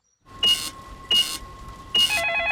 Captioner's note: cash register beeping; dialing; cellphone ringing; beeps